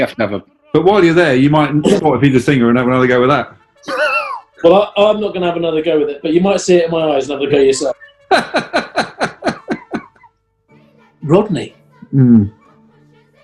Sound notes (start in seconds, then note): 3.8 sniggers; 7.6 laughing